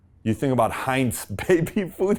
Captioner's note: chuckles